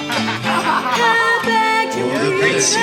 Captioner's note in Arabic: يضحك